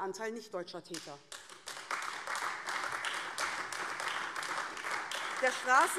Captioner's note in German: Beifall AfD